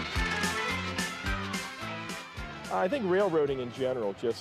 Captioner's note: children cheering